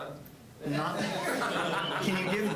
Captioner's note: audience laughing